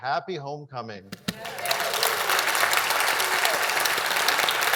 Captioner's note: audience applauds